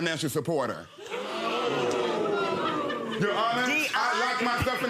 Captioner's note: audience members gasping